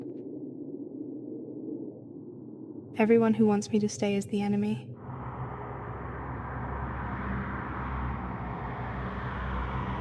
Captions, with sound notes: Everyone who wants me to stay is the enemy. (car rushing near)